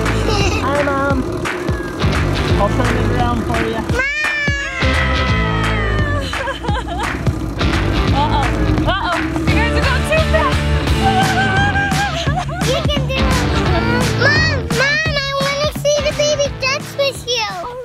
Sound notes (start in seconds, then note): 0.2 giggles; 6.4 laughing; 10.9 giggles